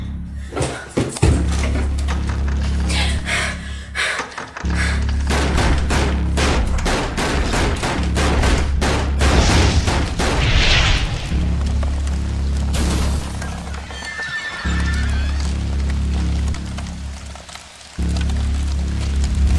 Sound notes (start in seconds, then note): 2.0 rattles locked door; 2.8 Crystal breathes heavily; 5.9 loud banging on front door; 9.2 whoosh from fire; 12.7 glass breaks; 13.8 door creaks open